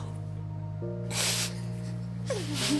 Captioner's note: tearfully; sniffs; sobbing